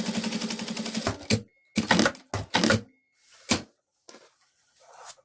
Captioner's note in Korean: 미싱소리